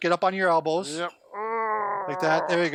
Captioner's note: grunting